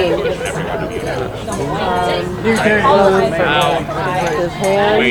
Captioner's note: people chattering